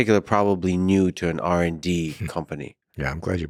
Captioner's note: laughs